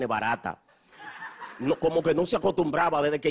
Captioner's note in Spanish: risas